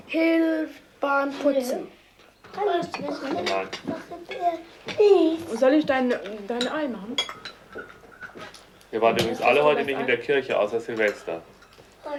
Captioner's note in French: conversation non traduite